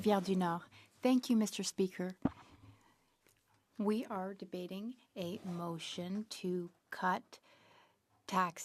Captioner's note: speaking French